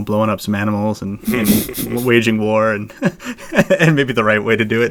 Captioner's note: laughs